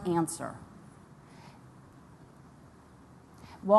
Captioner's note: pause